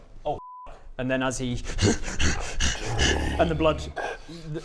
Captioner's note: snarls